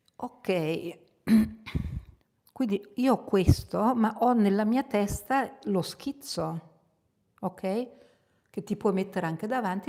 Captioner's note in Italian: schiarire la voce